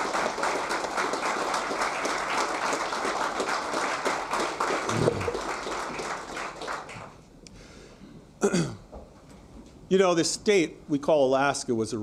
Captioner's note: applause